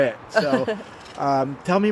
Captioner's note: chuckles